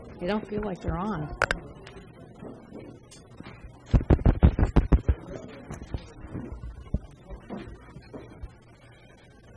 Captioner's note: tapping on microphone